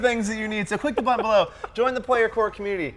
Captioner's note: laughing